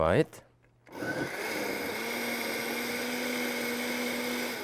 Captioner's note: blender whirs